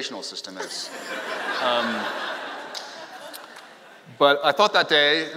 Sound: laughing

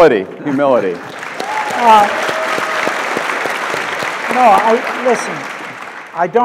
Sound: audience claps

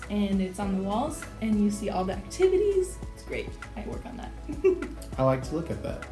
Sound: laughs

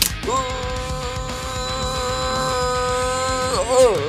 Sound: moaning

